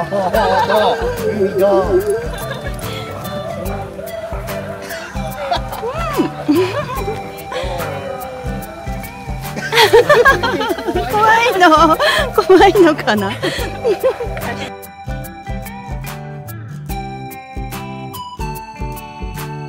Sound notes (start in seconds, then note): 11.9 laughs